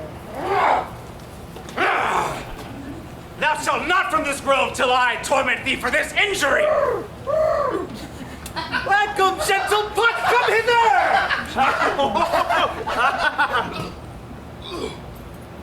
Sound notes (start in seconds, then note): 1.8 Oberon growls; 6.8 Puck warbling; 11.3 Puck and Oberon laughing